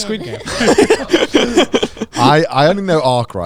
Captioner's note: everyone laughing